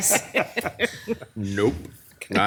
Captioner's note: group laughing